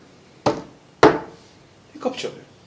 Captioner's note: knock knock